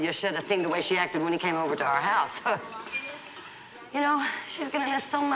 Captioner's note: scoffs